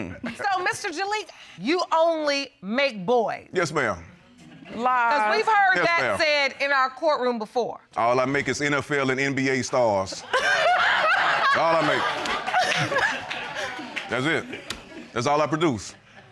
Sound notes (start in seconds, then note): 10.2 laughs